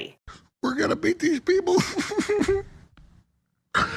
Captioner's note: sobs